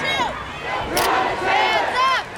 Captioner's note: crowd